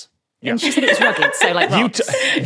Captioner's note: laughs